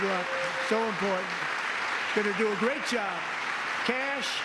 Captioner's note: applause